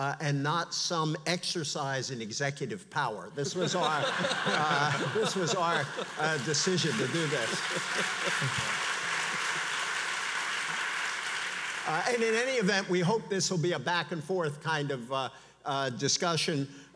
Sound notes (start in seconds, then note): 3.4 audience laughs; 7.6 audience applauds